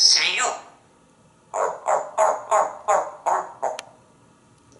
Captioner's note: seal sounds